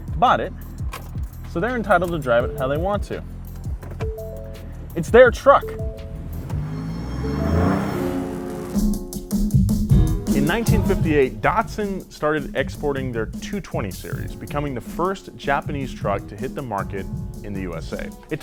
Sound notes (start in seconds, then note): 6.4 motor snarls; 8.3 jazzy electronic music